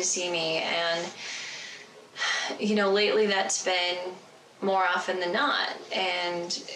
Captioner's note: sighs